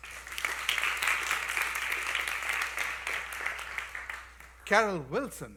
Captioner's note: applause